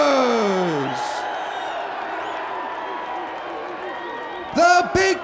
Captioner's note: audience cheers